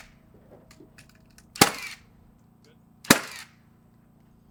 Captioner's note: construction noises